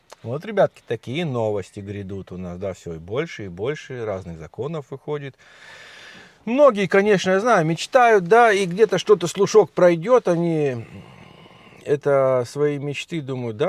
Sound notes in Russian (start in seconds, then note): 5.4 тяжело вздыхает